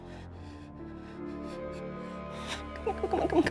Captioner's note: crying